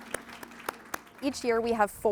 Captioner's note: applause